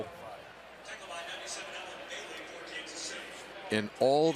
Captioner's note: pa announcement